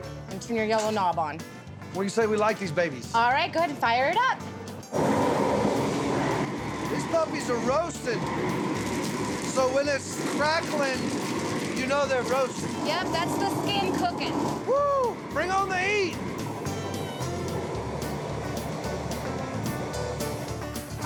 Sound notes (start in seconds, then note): 4.8 whooshing sound; 9.8 crackling sound; 16.4 whooshing sound